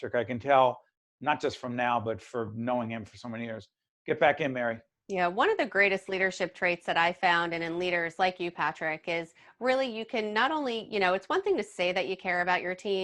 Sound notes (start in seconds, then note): none